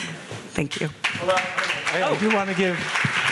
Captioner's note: audience clapping